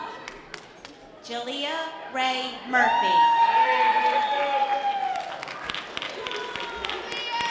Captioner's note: audience applause